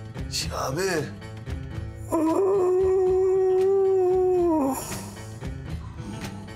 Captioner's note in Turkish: Horlama sesi